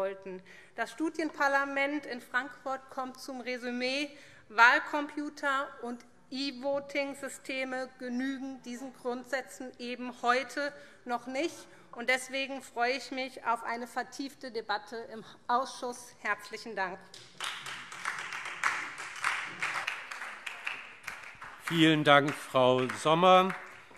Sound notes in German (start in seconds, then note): 18.7 Beifall SPD